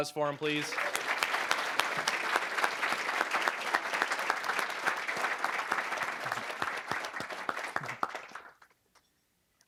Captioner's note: applause